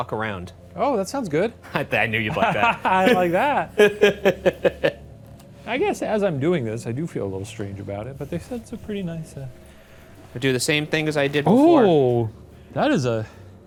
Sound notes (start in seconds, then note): 1.7 chuckles